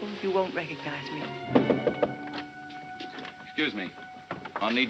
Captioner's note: tense music; light knocking